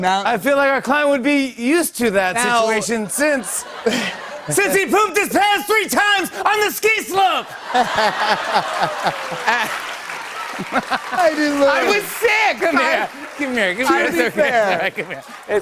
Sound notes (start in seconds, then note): 7.1 laughter and applause